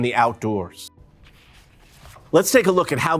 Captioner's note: paper rustles